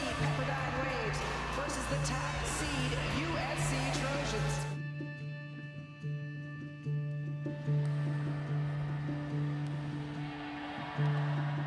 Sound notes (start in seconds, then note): 7.8 crowd cheering